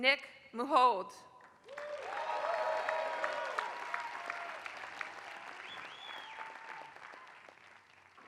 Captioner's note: applause